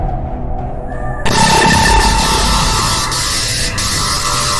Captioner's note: lasers blasting